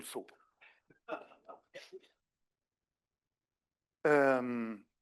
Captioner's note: speaking French; everybody laughs